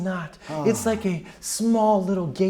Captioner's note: sighs